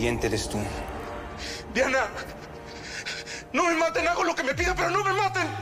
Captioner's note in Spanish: Sollozos